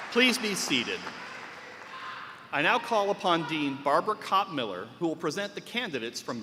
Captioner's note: cheers and applause